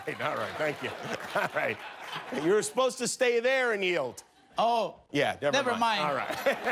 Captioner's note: cheers and applause